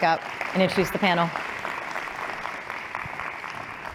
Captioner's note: applause